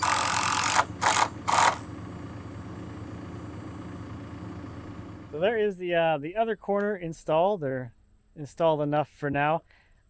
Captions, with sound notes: (drill buzzing) - So there is the other corner installed, or installed enough for now.